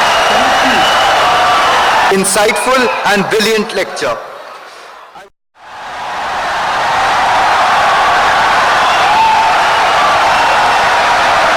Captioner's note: wild applause and cheering for 17 seconds